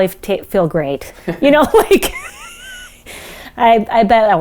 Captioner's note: laughs